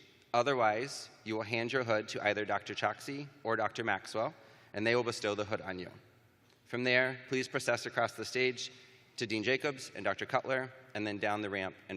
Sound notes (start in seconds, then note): none